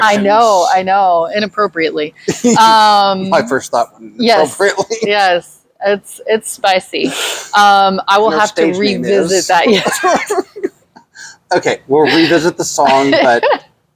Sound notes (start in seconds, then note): 2.3 laughs; 9.7 both laughing